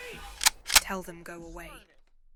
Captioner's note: gun clicks